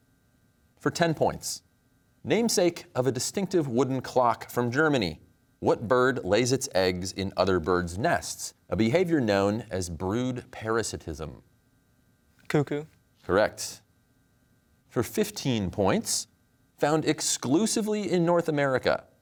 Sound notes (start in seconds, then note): none